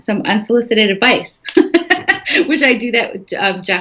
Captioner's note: laughing